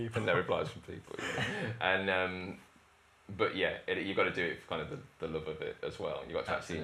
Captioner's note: laughter